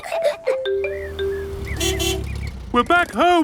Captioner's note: laughs; horn honking